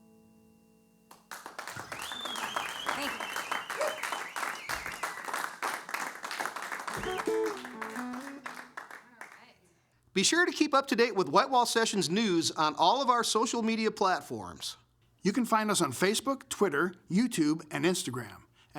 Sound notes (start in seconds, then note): 1.1 applause